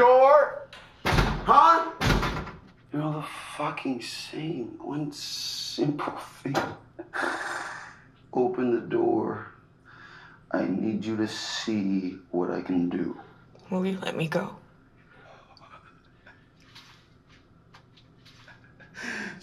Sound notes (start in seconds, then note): 1.9 door thuds; 16.0 quiet laughter